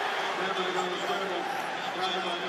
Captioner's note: pa announcement